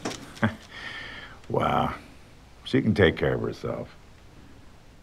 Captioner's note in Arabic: تضحك